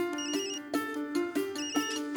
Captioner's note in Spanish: Suena celular